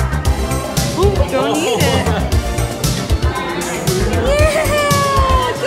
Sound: laughs

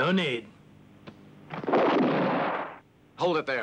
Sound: gun blasts

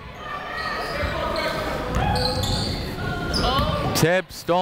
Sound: people shouting in the crowd

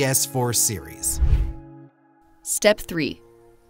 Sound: air whooshes

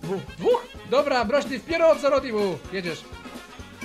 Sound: pseudo Russian talking

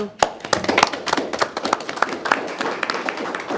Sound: board applauds

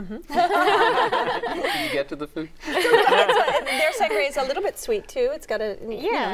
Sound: laughter

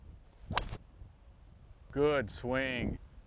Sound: ping!

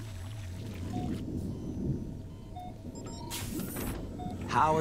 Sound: beeping

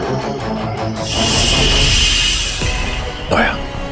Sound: hissing

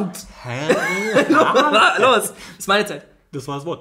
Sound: laughs

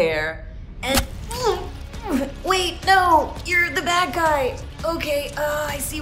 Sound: thud

